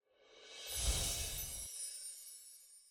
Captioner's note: whoosh; chimes